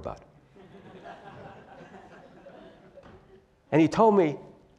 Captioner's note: laugh